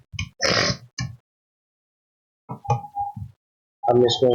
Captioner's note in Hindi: नाक से की जाने वाली आवाज़